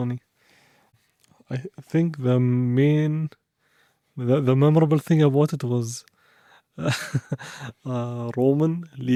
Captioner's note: laughs